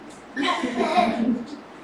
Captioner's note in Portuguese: risos